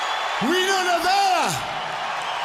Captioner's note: crowd cheering